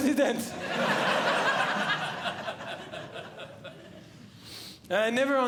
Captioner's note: audience Laughing